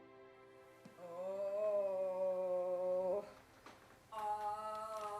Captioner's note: moans and groans